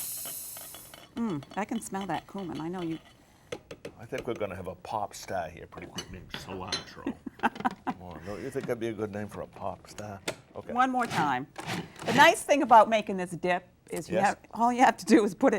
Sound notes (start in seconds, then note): 7.0 chuckles